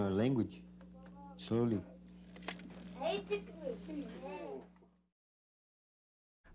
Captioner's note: indistinct chatter